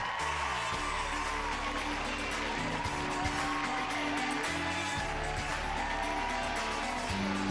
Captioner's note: cheers and applause